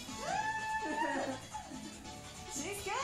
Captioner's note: cheerful music; woman cheers